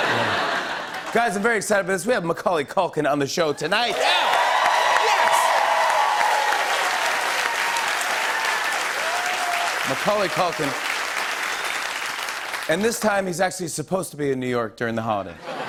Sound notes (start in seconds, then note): 0.0 laughter; 3.8 cheers and applause